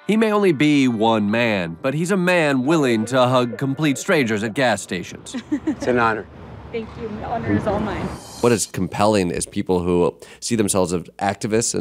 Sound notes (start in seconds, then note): 4.9 woman laughing; 9.0 whooshing